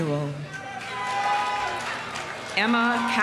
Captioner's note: audience applauding; audience cheering